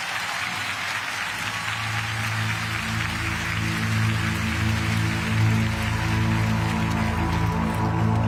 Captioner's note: crowd cheering